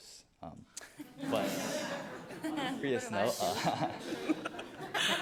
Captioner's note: audience laughs